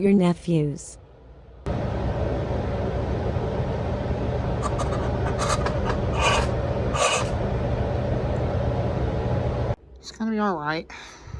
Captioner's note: Ava gasps or hyperventilates